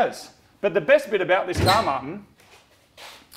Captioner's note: squeaks